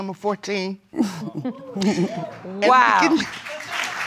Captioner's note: chuckling; crowd exclaims; applause